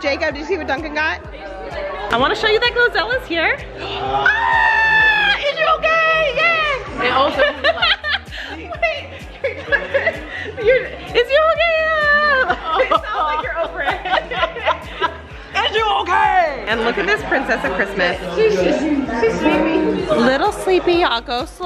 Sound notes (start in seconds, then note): 4.0 screaming; 7.1 laughing; 12.6 laughing